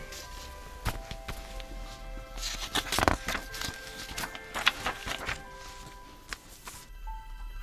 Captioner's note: pages of book turning; pencil scratching